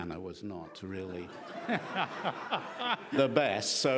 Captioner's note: laughing